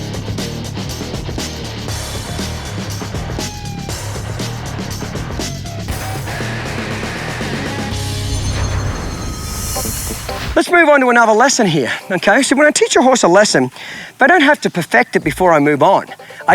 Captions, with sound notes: (shimmering) (upbeat country music) Let's move onto another lesson here, okay. So, when I teach a horse a lesson, if I don't have to perfect it before I move on,